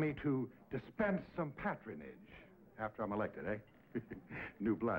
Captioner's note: chuckles